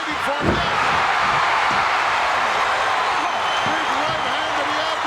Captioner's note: audience cheering